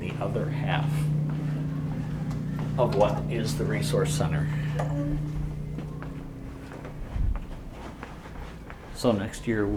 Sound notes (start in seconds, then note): 4.7 doorbell ringing